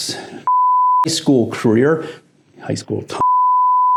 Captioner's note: beep; beep